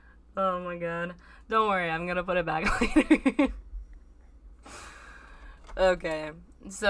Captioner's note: mischievous laughter